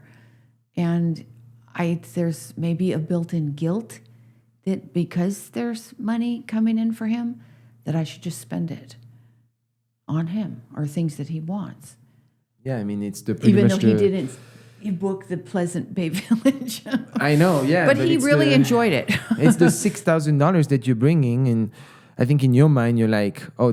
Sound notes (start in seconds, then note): 16.2 laughs